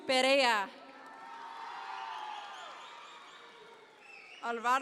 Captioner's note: audience members cheer